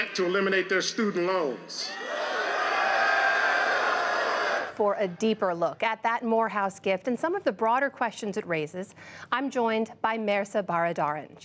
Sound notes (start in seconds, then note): 1.8 cheering and applause